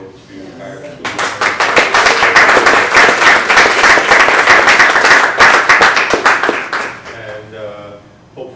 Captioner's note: applause